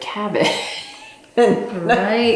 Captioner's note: laughs